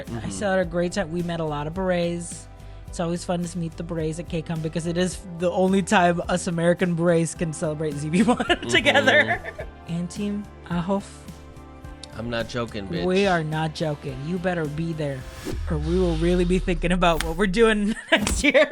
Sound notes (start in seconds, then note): 8.1 laughs